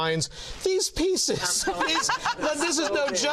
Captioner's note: laughter